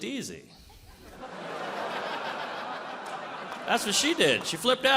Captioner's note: audience laughs